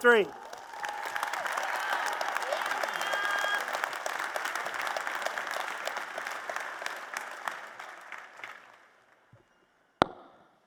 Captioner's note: applause and Cheers